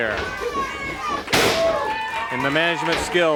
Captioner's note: body thuds